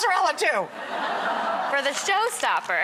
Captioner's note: audience laughs